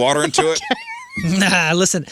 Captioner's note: laughter